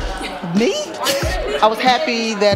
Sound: chuckles

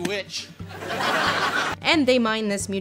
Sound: laughter

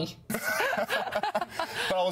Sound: and the interviewer laugh

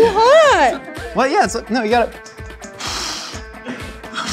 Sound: blowing

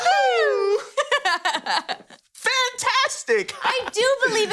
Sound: chuckling

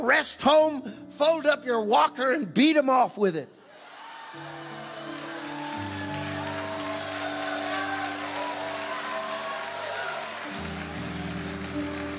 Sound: congregation cheering

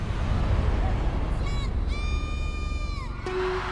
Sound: crowd cheering; pop music

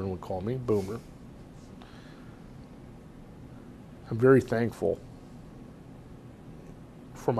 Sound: pauses for 3 seconds

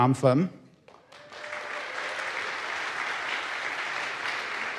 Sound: audience applauds

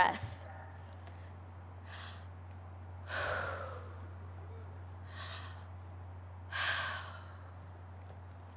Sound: breathing

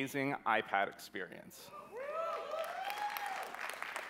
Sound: cheering

